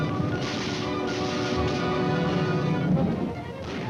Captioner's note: gunfire